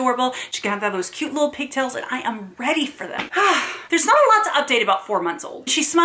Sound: exhale

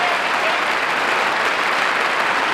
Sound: audience clapping

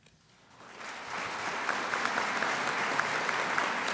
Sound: crowd applauds

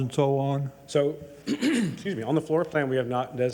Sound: clears throat

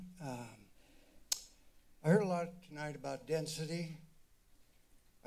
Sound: clicks tongue

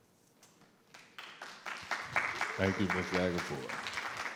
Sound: everyone applauding

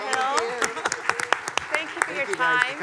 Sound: everyone applauding

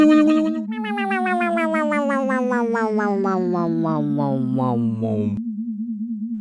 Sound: motor slowing down

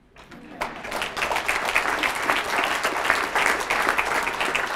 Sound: audience applauding

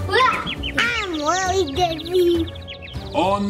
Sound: birds tweeting

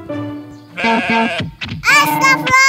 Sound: sheep sound

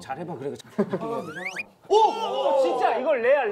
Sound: sliding

